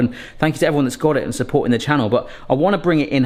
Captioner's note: none